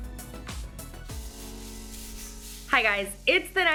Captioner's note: paint roller swishing